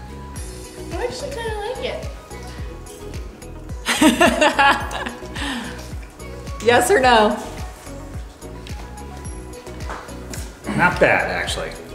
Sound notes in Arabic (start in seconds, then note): 3.8 يضحك; 7.9 موسيقى إيقاعية ناعمة